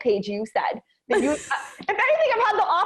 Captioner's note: chuckles